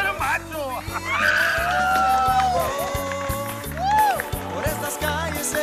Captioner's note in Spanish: aplausos; grita